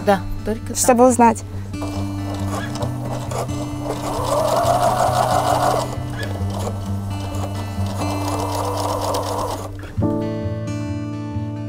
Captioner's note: sewing machine working